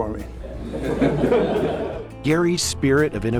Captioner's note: audience laughs